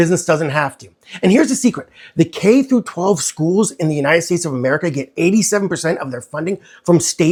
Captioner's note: voice-over